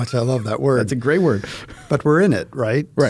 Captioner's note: chuckling